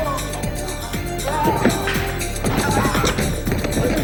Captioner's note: dramatic techno music; terrorist groans